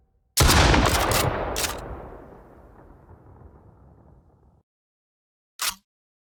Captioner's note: gun blasts; gun clicks